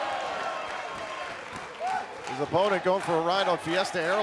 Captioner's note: crowd cheering